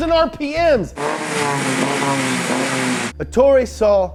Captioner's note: car revving